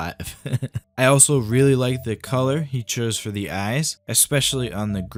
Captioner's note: laughter